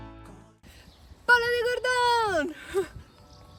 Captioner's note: speaking Spanish